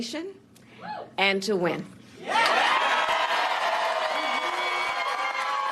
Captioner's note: applause